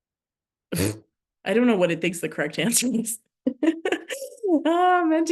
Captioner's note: laughs